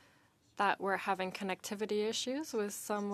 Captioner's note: speaking French